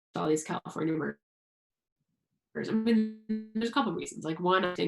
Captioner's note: audio cuts out